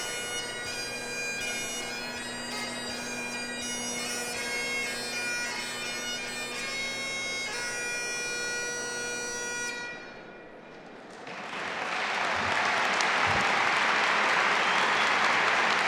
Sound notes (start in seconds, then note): 5.0 solemn bagpipe music continues; 10.9 audience applauding